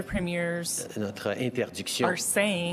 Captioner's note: speaking French